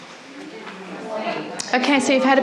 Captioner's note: audience chatter